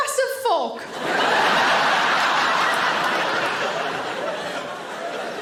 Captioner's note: audience laughing